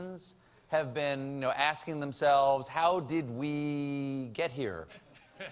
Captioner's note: laughter